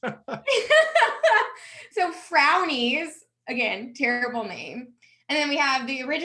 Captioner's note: laughs